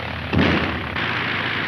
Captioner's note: airplane engine roaring; gun fires